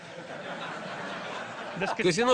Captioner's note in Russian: Смех в зале